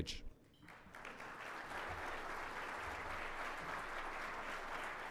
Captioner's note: audience applauding